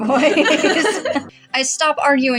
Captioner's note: both Laugh